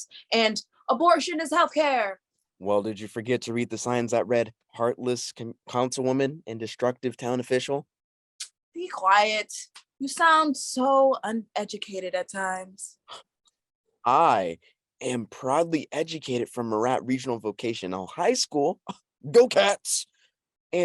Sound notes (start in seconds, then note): 13.4 scoffs